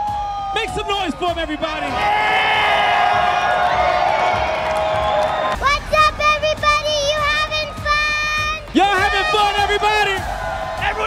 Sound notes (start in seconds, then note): 1.7 people clamoring